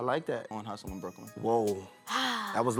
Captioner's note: sighs